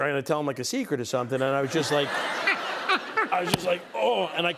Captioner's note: laughter